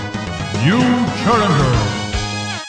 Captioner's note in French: Voix-Off